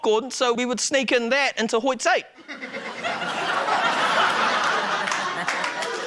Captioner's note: laughter, applause